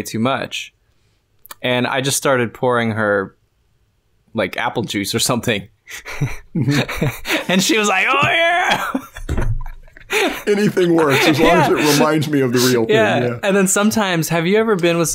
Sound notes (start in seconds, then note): 6.0 laughter